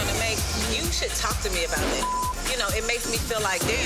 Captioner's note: beep